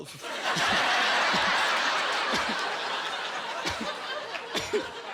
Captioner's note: laughing